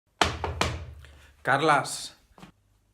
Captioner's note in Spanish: Knok knok knok